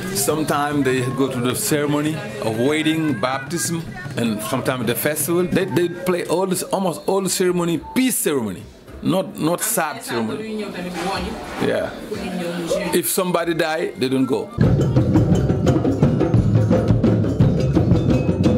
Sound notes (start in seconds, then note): 10.5 speaks in foreign language; 14.5 rhythmic drumming